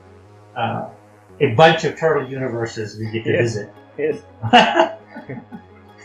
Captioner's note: Risas